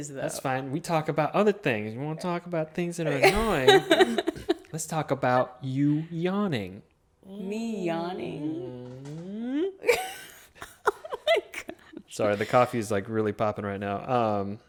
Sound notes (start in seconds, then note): 3.2 chuckles; 9.6 laughing